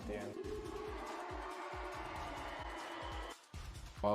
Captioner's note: crowd cheering